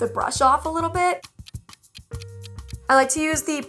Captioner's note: clock ticking